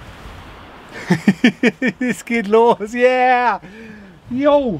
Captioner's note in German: Lacht